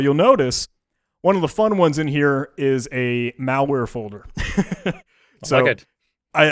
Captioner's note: laughs